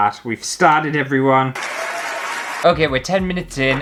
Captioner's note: applause